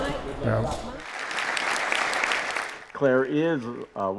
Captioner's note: audience applauds